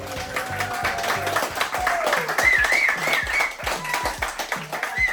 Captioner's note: crowd clapping and cheering